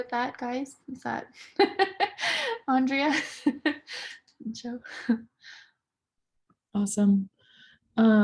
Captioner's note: laughs